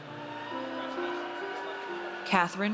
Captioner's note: audience cheers